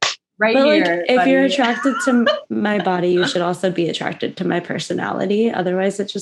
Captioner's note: laughs